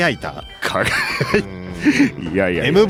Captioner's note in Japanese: 笑い